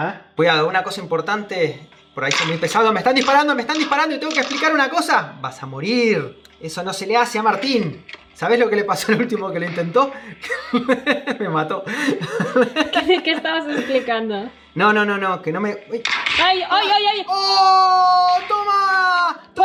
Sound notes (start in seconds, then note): 11.8 laughs